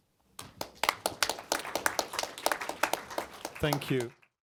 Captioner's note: applause